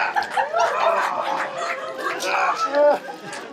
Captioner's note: laughing